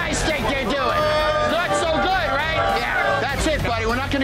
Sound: patrons moaning

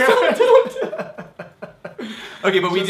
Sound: laughing

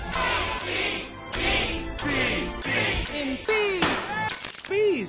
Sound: chanting

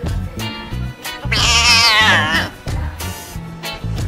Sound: grey Cat mewing

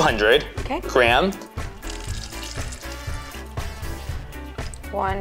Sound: liquid trickling

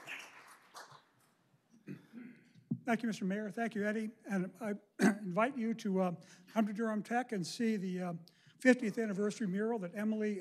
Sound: applause

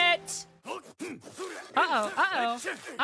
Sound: violent NPC Noises

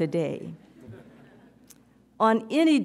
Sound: audience chuckles

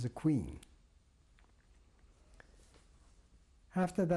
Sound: pauses for 3 seconds

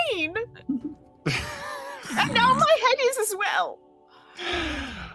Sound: laughs

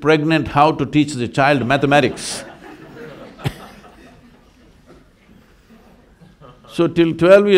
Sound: laughter

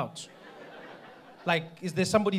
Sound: audience laughing

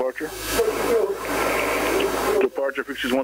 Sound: people chattering

